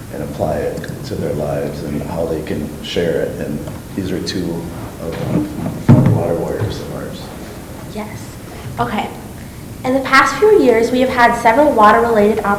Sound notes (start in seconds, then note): 5.3 thumping